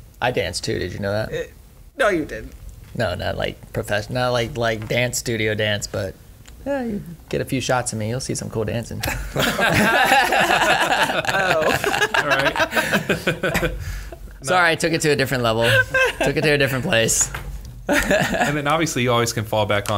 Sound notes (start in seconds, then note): 9.0 laughter